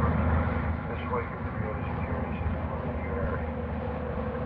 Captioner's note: radio continues, muffled